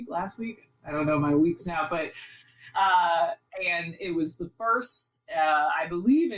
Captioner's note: laughs